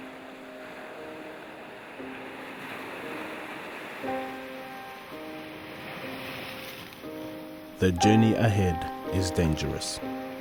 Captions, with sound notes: (water splashes) The journey ahead is dangerous.